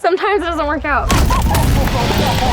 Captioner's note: laughs